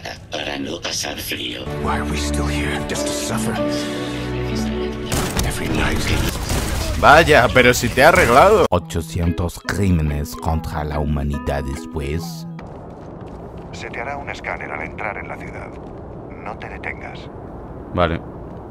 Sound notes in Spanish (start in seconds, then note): 5.1 Disparo; 8.5 Voz en off